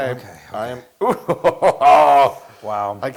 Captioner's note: laugh